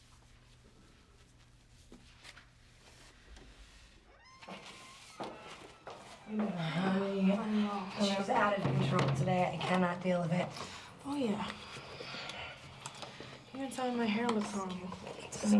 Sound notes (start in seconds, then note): 4.2 door creaks open; 7.0 grumbles